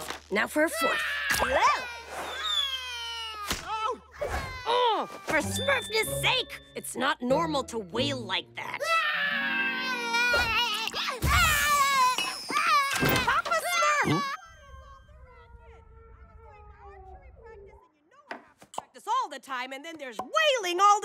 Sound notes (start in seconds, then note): 1.7 crying in distance; 8.9 crying